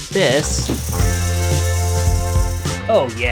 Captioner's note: fog machine spraying